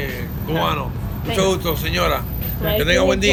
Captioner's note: talks in Spanish